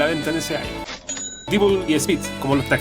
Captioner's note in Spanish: Sonido de Dinero